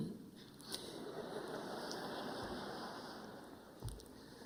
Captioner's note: audience laughing